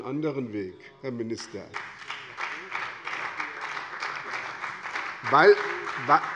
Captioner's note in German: Beifall bei der SPD und der FDP